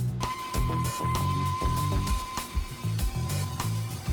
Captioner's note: machine laser